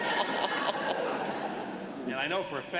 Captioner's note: laughter